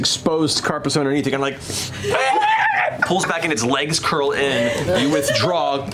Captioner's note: screeches